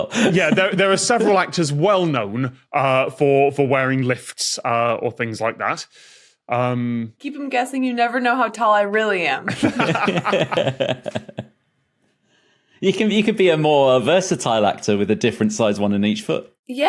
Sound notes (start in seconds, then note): 9.5 laugh